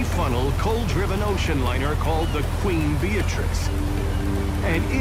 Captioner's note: seagulls squawking